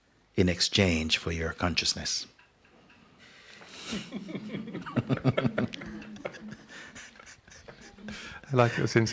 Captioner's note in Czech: Smích